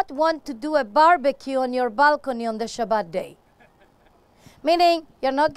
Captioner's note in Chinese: 笑聲